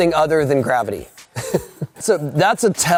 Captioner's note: laughing